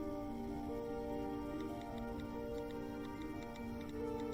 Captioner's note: typing